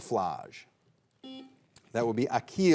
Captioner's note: buzzer beeps